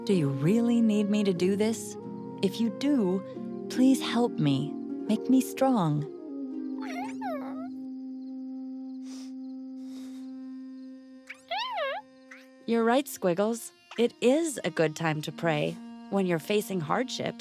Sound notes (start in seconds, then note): 6.4 squeaking; 9.8 sniffs; 11.3 squeaks